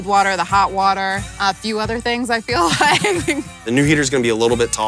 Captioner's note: laughs